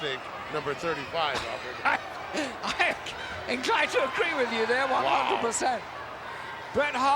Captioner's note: laugh